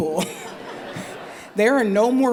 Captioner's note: laughter